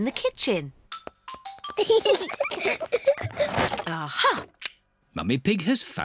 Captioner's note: peppa and george giggling